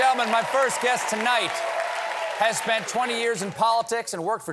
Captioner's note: cheers and applause